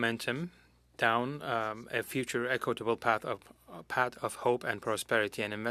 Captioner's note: speaking French